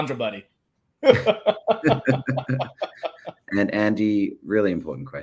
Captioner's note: both laughing